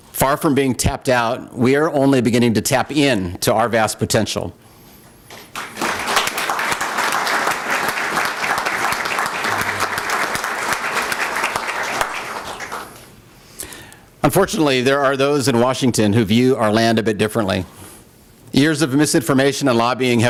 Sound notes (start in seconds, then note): 5.3 applause